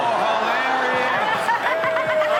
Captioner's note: all laughing